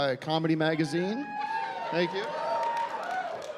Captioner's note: scattered whooping